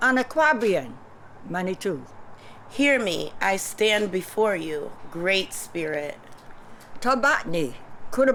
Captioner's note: non-english speech